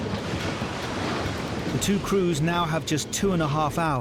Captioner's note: water sloshing